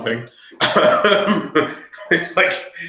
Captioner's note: laughing